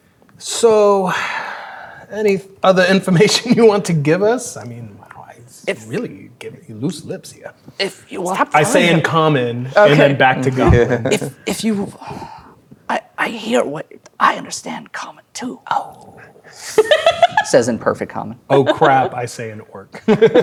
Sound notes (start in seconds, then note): 18.5 laughing